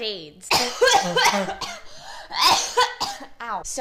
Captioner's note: coughing/choking